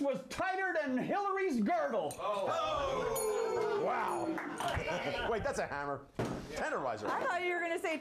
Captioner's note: bell rings